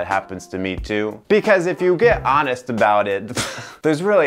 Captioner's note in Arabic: يضحك